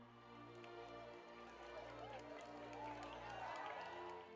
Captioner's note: people applauding